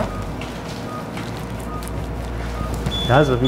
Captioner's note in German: Gleichmäßiger Piepton